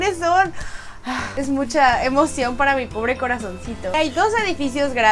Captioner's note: sigh